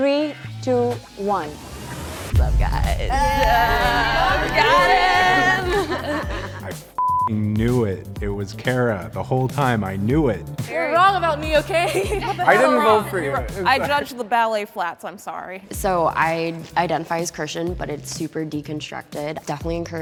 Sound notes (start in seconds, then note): 3.5 group chattering; 6.1 laughing